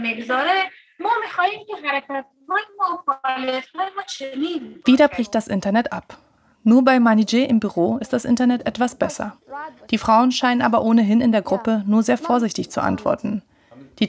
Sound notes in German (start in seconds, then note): 1.0 Abgehackte Sätze